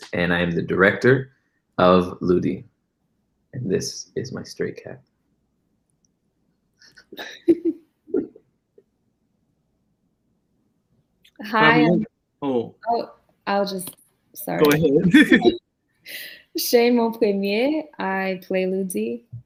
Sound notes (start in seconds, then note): 7.2 participants laughs; 14.6 laughs